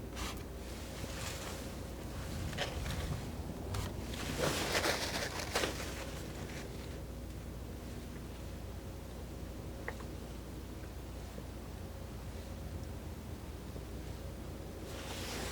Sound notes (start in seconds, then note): 4.1 scratching